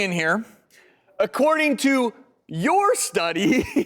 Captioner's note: laughs